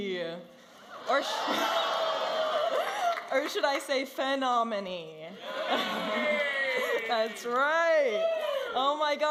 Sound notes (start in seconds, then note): 6.0 audience applauding and cheering